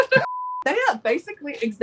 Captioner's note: laughing; test pattern beeping